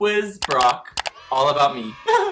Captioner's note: clicking; laughs